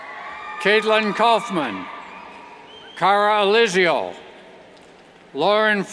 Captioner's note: cheers